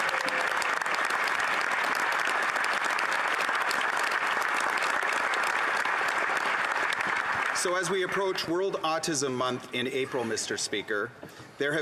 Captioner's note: applause